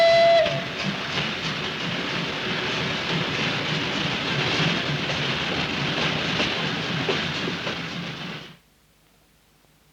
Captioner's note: choo-Choo; train chugging over steel bridge